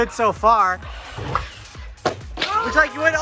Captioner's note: car revving; car slamming down